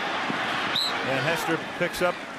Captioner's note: whistle